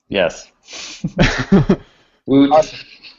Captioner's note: laughter